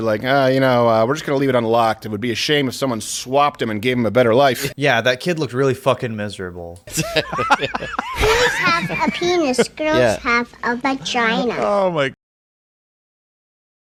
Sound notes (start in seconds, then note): 6.9 everybody laughs; 8.1 child’s voice